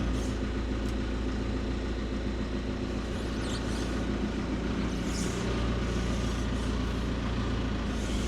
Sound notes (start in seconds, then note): 2.6 engine continues rumbling